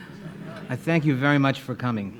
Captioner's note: audience laughing